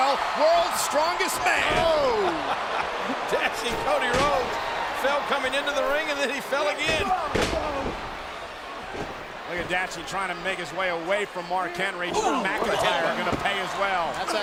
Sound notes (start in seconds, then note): 2.2 chuckling; 6.8 Cody thudding